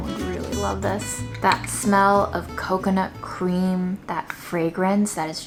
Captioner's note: spoon tapping